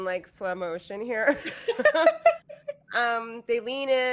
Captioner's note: laughing